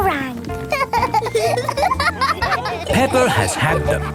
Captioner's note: laughing